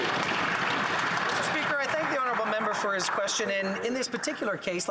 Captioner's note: some Applause